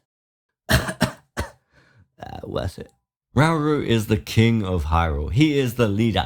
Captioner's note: cough